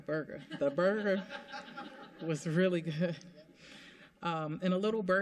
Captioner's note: laughter